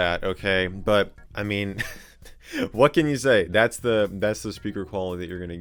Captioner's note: laughs